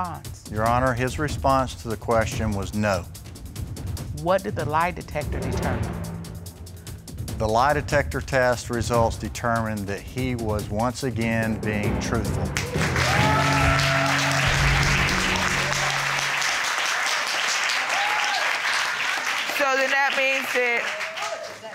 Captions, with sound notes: Your Honor, his response to the question was no. What did the lie detector determine? The lie detector test results determined that he was once again being truthful. [AUDIENCE CHEERING] So, then that means that